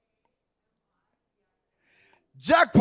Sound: speaking quietly

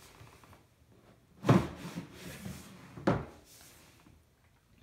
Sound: drawer clatters

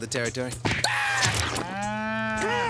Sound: screaming

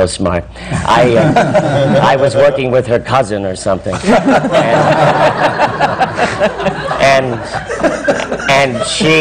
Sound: laughter

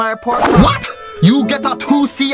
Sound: thick Asian accent

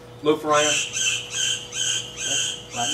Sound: bird chirping

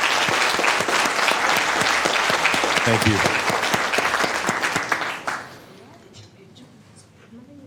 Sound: applause

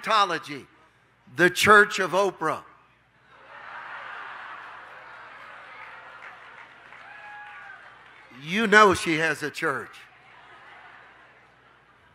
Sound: audience laughing

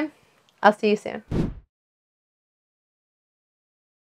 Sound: whooshing

